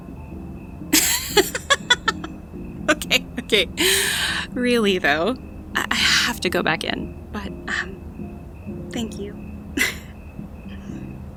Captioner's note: laughing hard